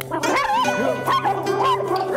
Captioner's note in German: Hundegebell